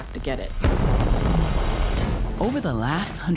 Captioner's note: explosion